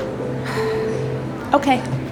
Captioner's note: sighs